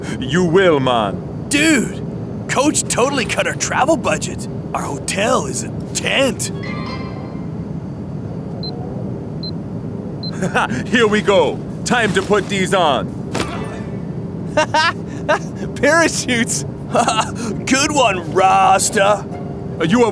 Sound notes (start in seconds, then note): 8.0 beeping; 14.5 laughing